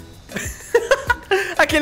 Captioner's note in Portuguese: risos